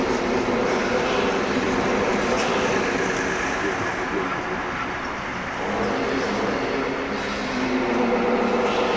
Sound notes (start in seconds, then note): 0.1 road sounds in distance; 3.3 distorted male voice